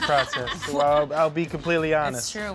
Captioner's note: laughs